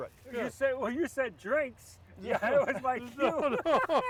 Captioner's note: laughs; all laughing